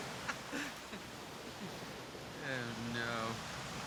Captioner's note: laughs